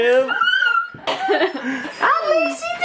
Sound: laughing

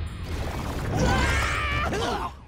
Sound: screaming

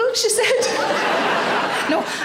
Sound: audience laughing

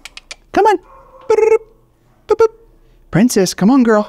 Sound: tongue clicking; Rocky trilling

